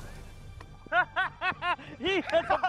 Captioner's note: laughing